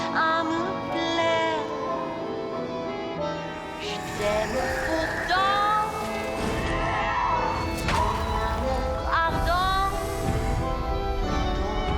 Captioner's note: fighting noises